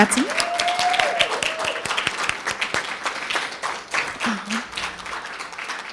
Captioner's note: audience cheering and applauding